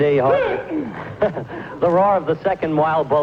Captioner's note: cries out